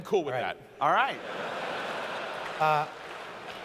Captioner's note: laughter